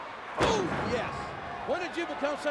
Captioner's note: body thuds